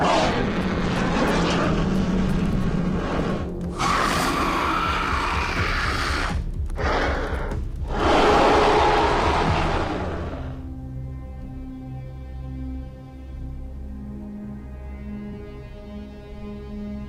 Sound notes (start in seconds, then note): 0.2 shark roaring; 4.0 shark growling; 7.8 shark roaring; 10.7 brooding music